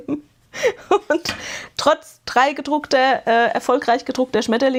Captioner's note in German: gelächter